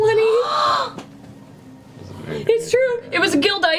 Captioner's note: gasps